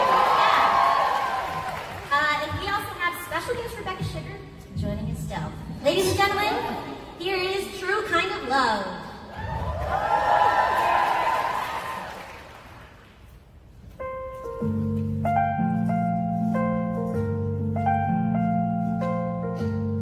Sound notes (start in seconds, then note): 0.0 audience cheers; 9.3 audience cheers; 13.7 piano plays